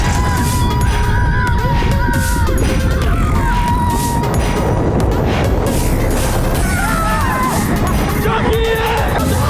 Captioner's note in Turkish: bağırışmalar